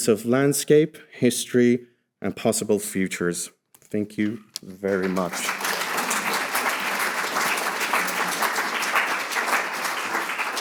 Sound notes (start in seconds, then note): 4.8 audience applauding